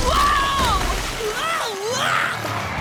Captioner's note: screaming